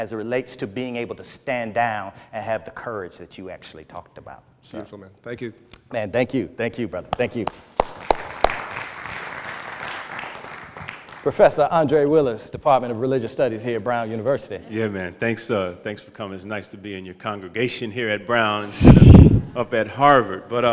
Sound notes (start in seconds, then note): 7.1 applause